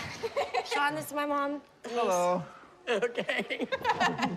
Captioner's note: laughs